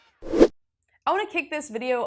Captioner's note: graphic whooshes